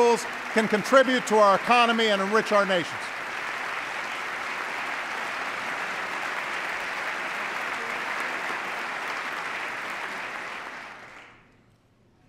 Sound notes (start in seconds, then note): 5.4 applause